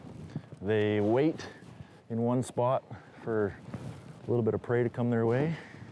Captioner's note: none